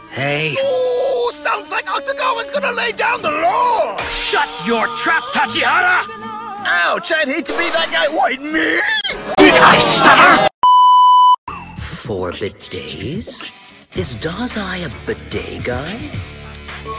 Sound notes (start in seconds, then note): 9.2 severely distorted; 10.6 static sound beep